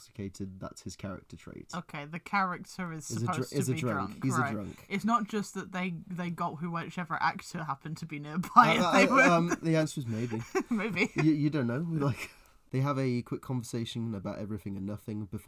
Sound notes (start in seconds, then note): 8.5 laughs; 10.1 breathy Laugh